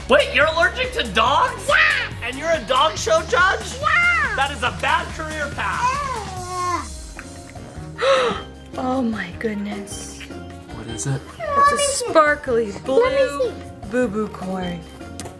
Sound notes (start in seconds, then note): 7.2 gasps